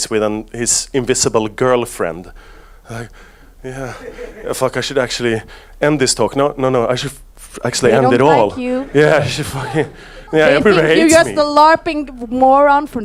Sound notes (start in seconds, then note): 8.7 audience laughs